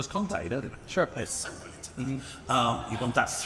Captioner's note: speaks faintly